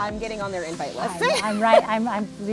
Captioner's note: laughs